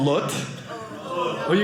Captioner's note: groaning